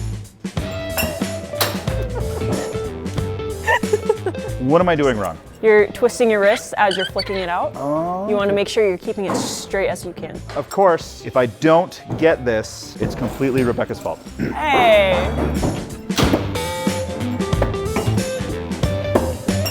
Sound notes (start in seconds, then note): 1.1 star thudding; 3.6 laughing; 15.9 upbeat music